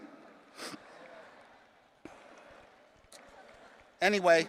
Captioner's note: attendees cheering